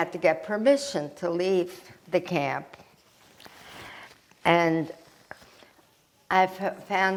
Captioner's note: wiping nose